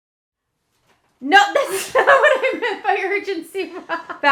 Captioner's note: laughs